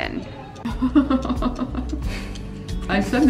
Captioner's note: laughing